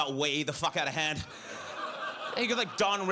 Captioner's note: audience laughs